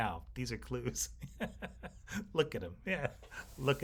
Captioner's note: host laughing